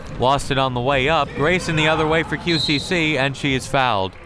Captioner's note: whistle tweeting